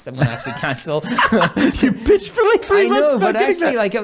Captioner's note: laughs